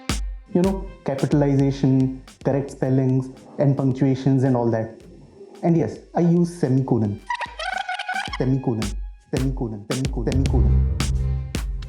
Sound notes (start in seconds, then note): 7.2 fast rewind sound effect